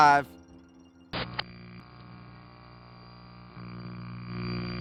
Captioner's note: static buzzes